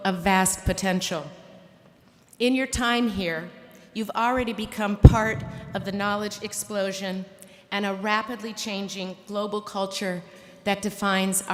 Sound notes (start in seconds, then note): none